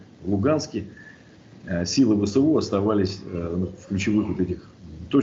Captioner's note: Ukrainian